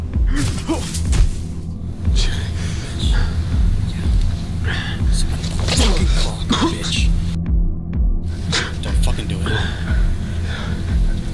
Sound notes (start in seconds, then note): 0.1 honey Badger grunts, The Man groans; 2.0 heavy breathing; 5.6 the Man coughs; 9.5 the Man gasps for air